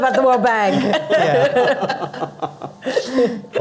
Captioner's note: panelists laughing